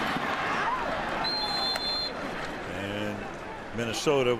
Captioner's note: whistle